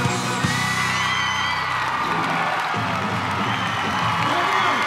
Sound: crowd cheers

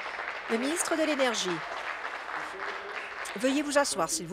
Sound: applause

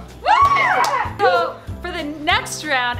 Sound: cheers

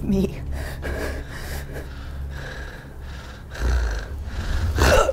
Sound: heavy breathing

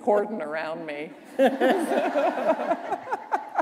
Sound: laughter

